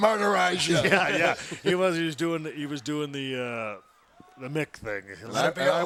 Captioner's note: laugh